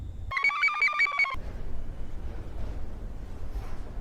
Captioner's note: computer chirps